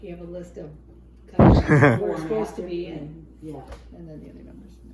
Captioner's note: chuckles